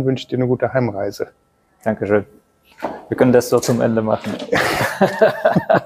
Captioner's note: laughter